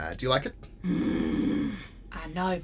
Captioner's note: Sim groans